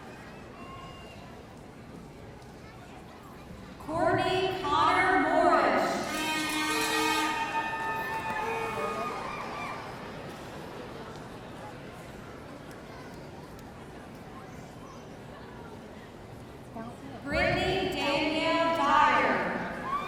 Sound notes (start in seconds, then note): 5.8 air horn sounding; 7.2 audience cheering